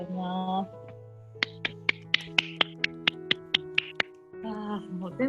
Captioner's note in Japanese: 拍手